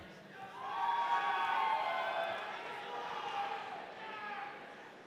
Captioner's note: audience cheering